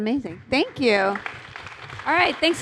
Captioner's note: applause